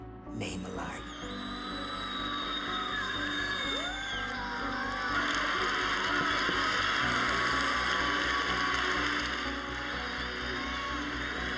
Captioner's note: applause